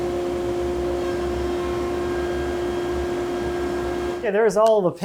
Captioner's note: machine whirring